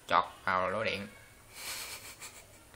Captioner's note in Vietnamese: cười